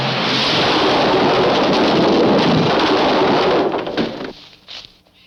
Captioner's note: bridge crashes